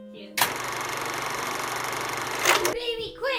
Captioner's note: loud CLAP; sound of film rolling